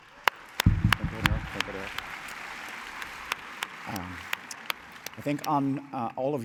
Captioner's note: applause